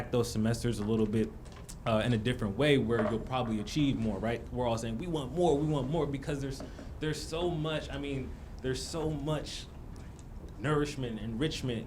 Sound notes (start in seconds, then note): none